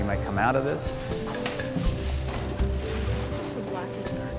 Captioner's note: shuffling through plastic bags